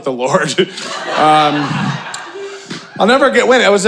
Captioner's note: audience laughing